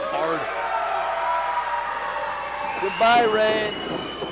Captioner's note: crowd yells and cheers